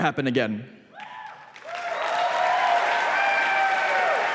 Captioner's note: applause